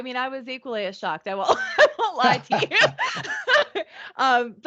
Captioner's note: laughing